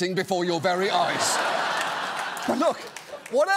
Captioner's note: laughter